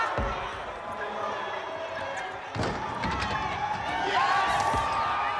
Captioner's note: crowd cheering